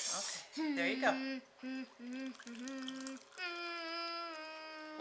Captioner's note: humming